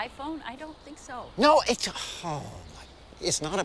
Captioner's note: sighs